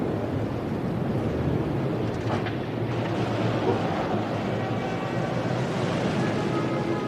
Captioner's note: engine revving